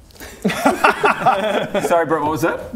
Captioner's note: laughs